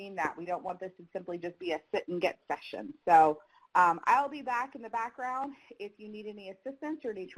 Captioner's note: none